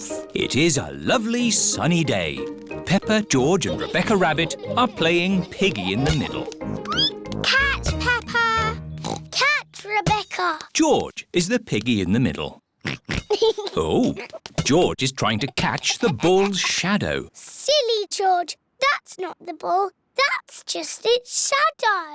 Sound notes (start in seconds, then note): 6.0 squeaks; 9.0 oinks